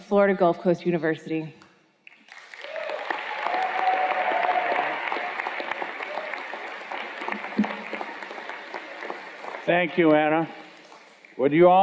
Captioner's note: cheers and Applause